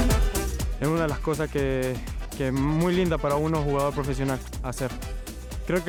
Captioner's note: fan speaking in a foreign language